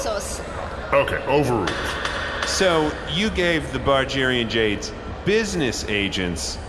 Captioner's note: bangs gavel